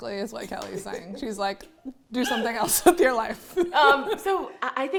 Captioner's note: laughs